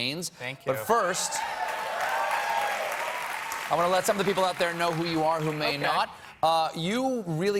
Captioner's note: applause